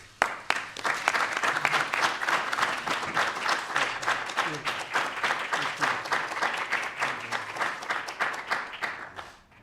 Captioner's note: applause